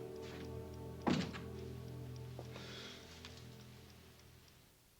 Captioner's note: door clicking